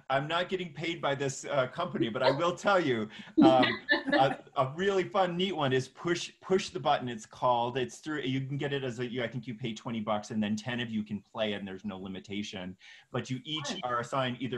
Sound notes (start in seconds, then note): 3.4 laughing